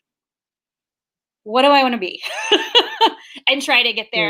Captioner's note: laughs